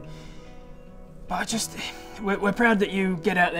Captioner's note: sigh